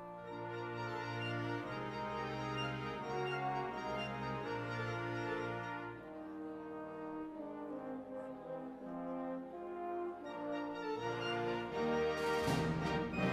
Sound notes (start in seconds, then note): none